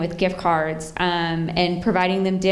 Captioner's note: none